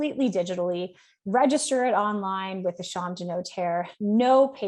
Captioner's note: speaks French